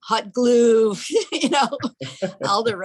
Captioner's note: laughing